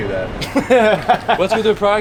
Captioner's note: laughing